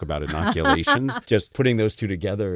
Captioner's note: laugh